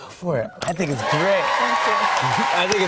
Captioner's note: cheers and applause